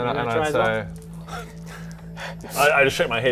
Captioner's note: fearful noises